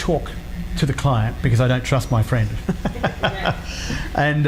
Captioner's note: laughs